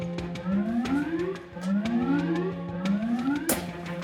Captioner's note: sirens blaring